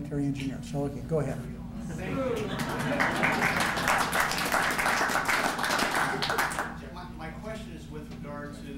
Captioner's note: ovation